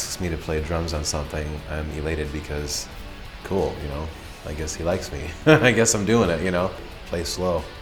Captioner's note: laughs